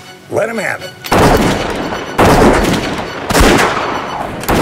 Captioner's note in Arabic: نار البنادق